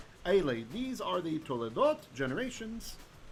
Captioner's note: Hebrew